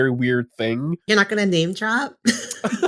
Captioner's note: laughter